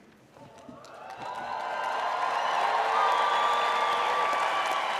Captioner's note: audience cheers